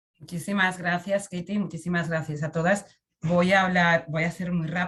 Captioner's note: speaks in Spanish